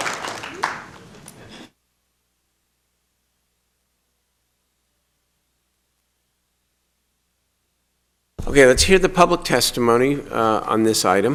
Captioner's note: applause